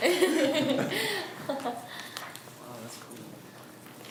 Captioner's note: laughs